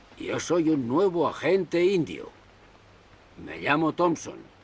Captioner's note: speaks Spanish